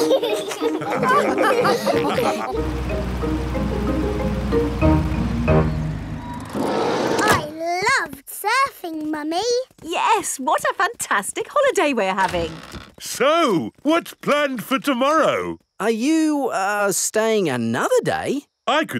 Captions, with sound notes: (ALL LAUGH) I loved surfing, Mummy! Yes, what a fantastic holiday we're having! So, what's planned for tomorrow? Are you, uh, staying another day?